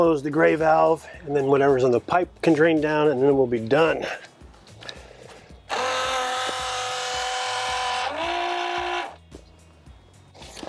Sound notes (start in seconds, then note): 5.7 pump roaring